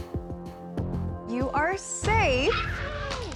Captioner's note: applause